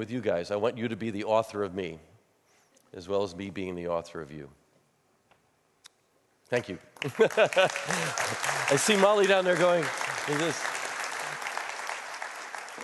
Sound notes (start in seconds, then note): 6.9 applause; 7.1 laughs